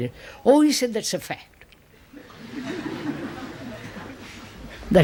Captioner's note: laughter